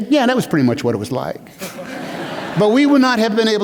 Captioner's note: laughter